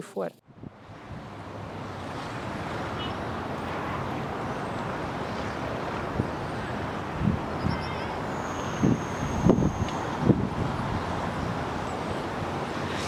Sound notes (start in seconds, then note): 4.5 cars sound, wind blows, birds chirp